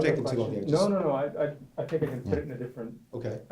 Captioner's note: voiceover